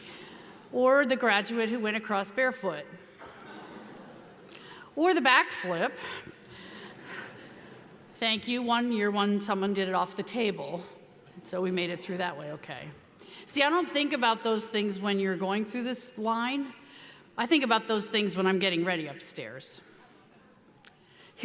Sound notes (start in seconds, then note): 3.2 audience laughing